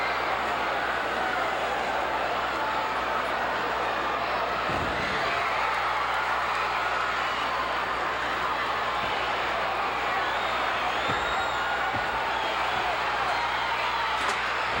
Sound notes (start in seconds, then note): 1.1 audience cheering continues